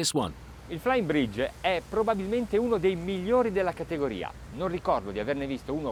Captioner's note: speaking foreign language